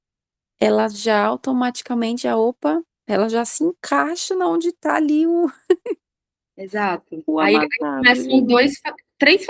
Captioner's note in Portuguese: risadas